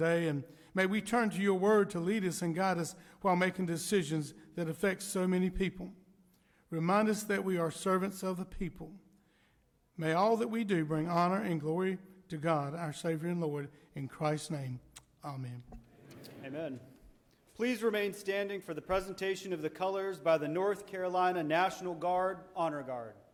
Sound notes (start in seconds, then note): 15.9 crowd